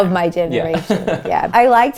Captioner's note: laughs